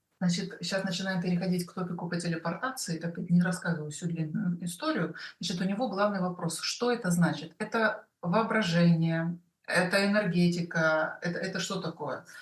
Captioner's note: Russian